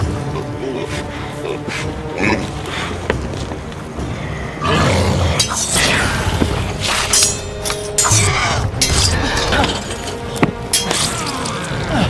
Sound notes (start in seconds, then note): 4.2 grunting; 4.6 swords clanging